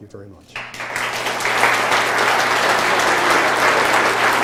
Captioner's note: applause